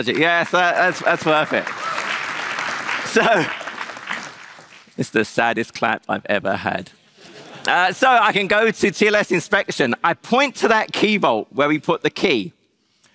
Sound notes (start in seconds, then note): 1.7 applause; 7.2 laughter